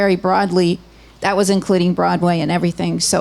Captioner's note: none